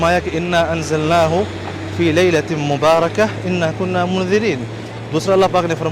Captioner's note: Arabic